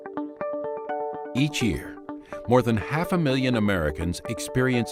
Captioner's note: bright music; voiceover